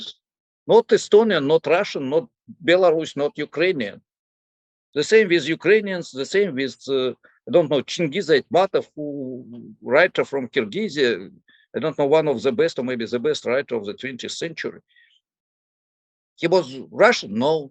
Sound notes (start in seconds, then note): 8.3 foreign language 00:15:31